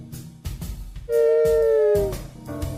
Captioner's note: t3-m4 whines